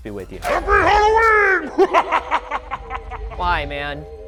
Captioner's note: laughs